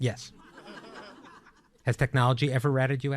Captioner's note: audience laughing